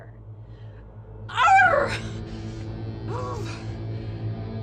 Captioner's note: Julia howls